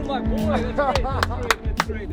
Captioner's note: laughing; clapping